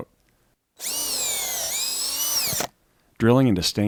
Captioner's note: drill whirring